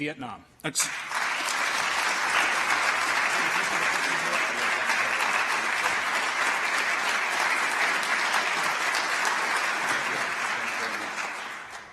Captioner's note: applause